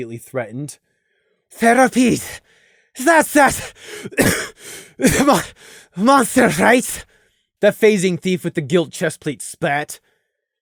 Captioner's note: cough